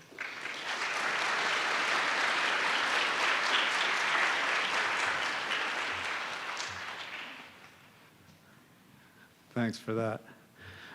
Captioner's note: applause